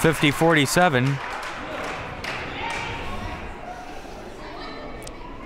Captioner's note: crowd murmuring